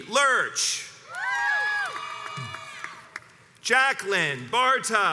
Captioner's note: crowds cheers and applauds